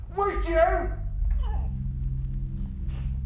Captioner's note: Mia crying